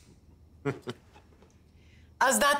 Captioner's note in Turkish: Gülüyor